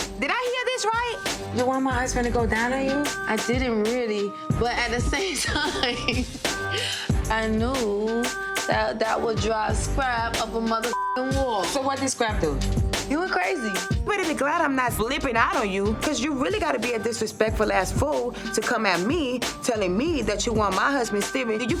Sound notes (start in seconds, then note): 5.2 laughs; 10.8 beep